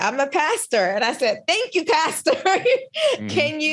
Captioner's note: laughs